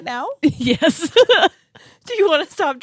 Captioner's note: laughs